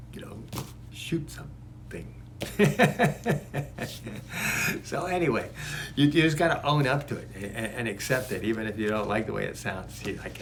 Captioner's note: laughing